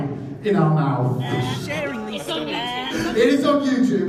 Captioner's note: gagging